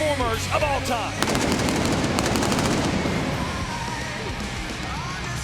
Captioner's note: pyro blasting